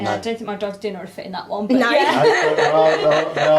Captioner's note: all laugh